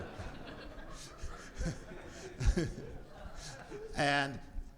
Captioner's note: audience laughs